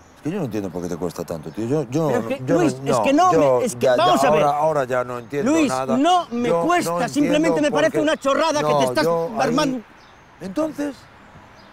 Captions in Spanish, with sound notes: No entiendo por qué te cuesta tanto. - Pero, es que no... Vamos a ver... - Ahora ya no entiendo nada. (GRITA) ¡No me cuesta! Es una chorrada que te estás armando. ¿Entonces?